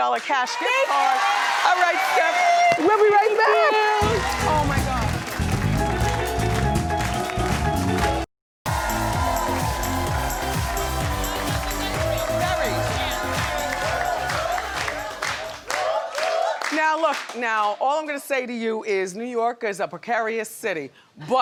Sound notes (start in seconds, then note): 1.4 audience cheers; 4.8 audience cheers; 4.8 upbeat tropical music; 8.6 upbeat music; 8.6 audience cheers